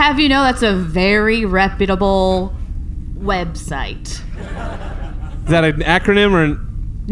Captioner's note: quietly